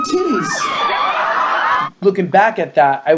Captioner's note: crowd cheers